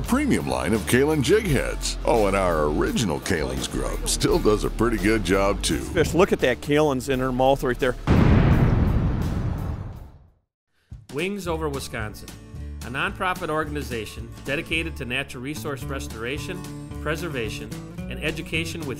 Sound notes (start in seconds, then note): 0.2 voiceover; 8.1 whoosh